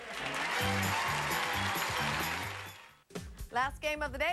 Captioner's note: audience applauding